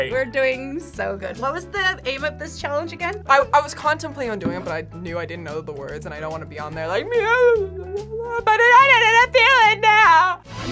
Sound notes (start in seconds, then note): 7.5 vocalizes